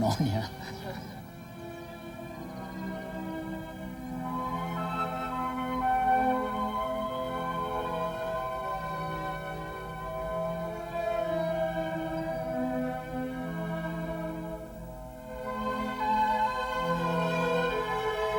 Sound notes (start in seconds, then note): 0.0 laughs; 6.0 peaceful orchestral music